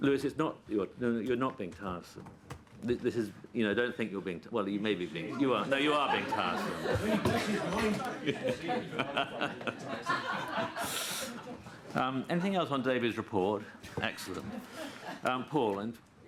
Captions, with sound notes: Louis you're not being tiresome -- well you may be, no you are being tiresome! (LAUGHTER) Anything else on David's report? Excellent.